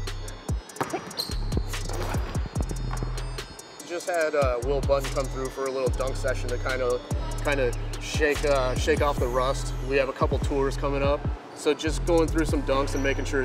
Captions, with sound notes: (ball bouncing) I just had Will Bunton come through for a little dunk session to kind of shake off the rust. We have a couple of tours coming up. So just going through some dunks and making sure